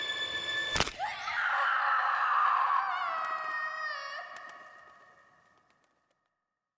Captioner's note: bone cracking; Mackenzie screaming